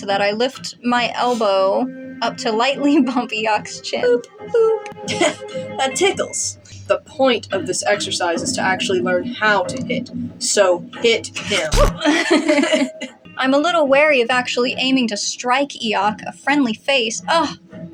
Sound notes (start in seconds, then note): 12.0 both Laugh; 17.4 sarcastically